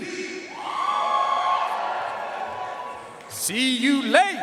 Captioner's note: audience cheering and applauding